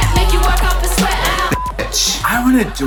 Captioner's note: beep